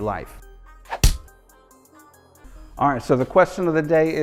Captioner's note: hands punch